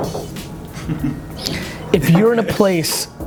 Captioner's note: chuckling